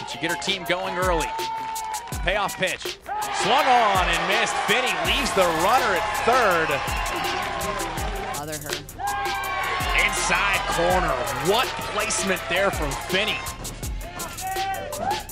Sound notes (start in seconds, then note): 8.5 crowd cheering